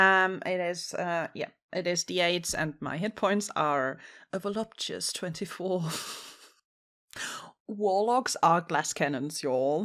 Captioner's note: laughs